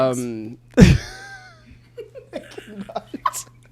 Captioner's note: both laugh